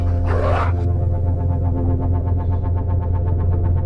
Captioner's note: demonic growling